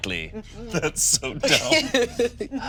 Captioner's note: laughs; all laughing